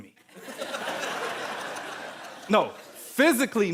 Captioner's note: audience laughing